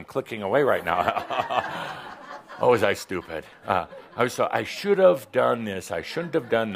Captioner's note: some chuckles